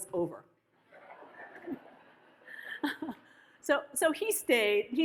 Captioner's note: audience laughs